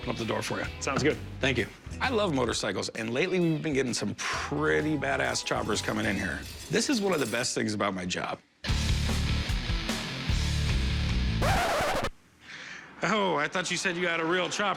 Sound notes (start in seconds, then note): 11.4 record scratch